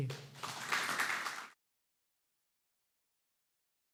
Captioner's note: applause